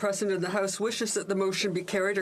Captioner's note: speaking French